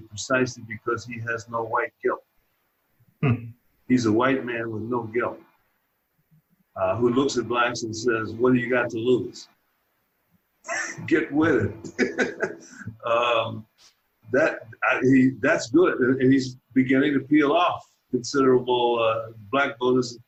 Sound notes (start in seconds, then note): 12.5 laughing